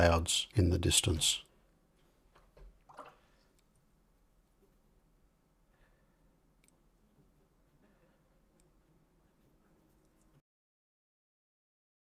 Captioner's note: silence